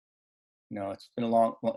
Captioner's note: laughing